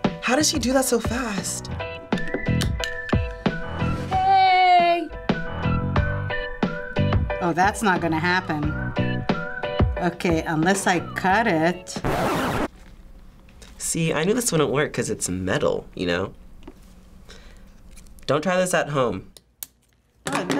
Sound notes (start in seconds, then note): 12.0 record scratches